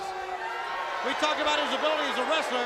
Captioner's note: crowd cheering